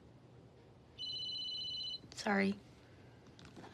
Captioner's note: phone rings